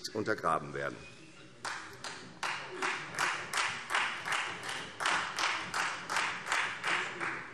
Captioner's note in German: Beifall Freie Demokraten